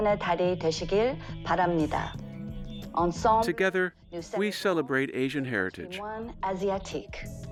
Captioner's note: speaking Korean